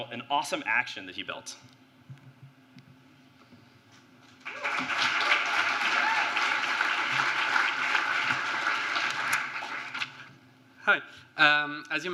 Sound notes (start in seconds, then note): 4.3 applause